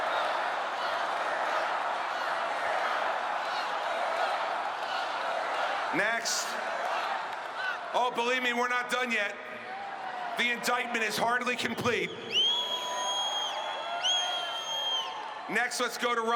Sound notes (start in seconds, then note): 0.0 crowd chanting